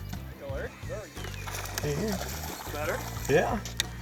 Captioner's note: voiceover